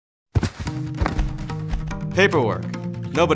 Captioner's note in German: Papierrascheln; sanfte Musik